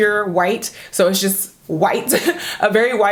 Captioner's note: laughs